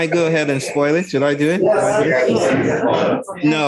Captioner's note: indistinct conversation